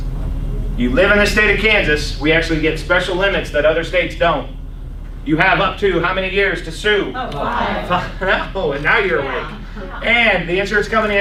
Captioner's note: laughs